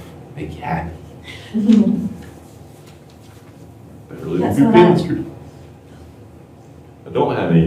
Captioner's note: laughter